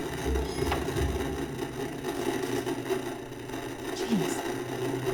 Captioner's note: object creaks upstairs; VCR whirs; static buzzing